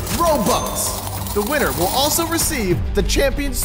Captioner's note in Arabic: قعقعة العملات المعدنية